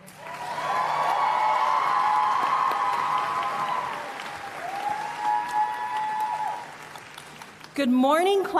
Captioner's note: applause and Cheering